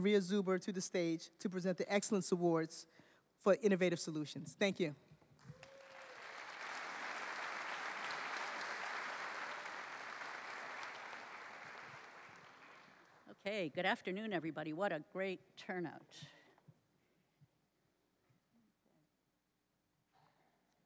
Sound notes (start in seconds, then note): 5.4 applause